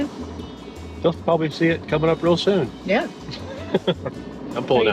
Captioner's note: laughs